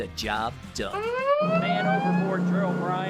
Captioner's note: alarm ringing